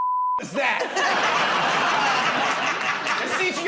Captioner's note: laughter